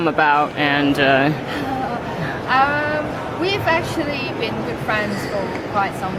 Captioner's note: laughs